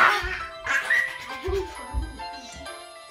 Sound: giggles

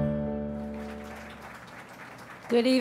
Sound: audience applauds

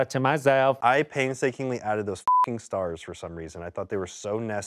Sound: beep

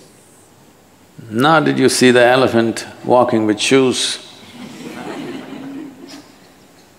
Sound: laughter

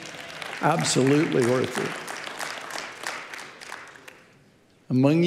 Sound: audience clapping

